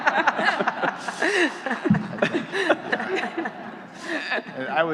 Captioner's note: laughing